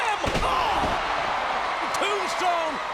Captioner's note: audience cheers